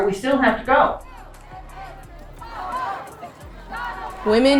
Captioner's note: crowd chanting